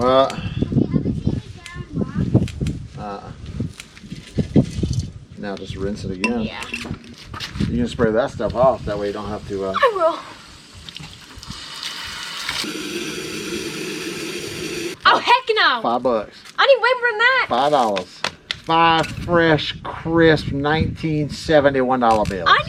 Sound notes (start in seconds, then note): 0.4 wind; 0.4 wind in background; 10.0 water running